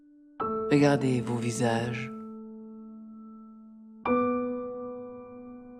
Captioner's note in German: Gespräch im Film